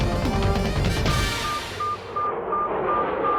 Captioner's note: airplane whooshing; beeping